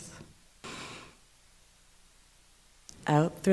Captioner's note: inhaling